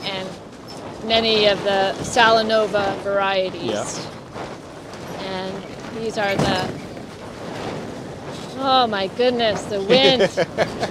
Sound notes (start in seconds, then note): 6.1 metal crashing